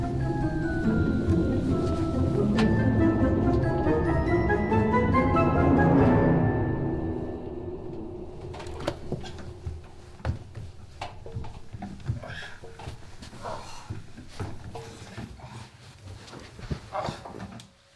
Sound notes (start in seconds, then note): 12.7 Merrill grunts